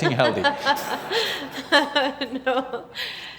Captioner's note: laughs